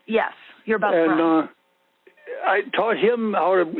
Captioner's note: over the Phone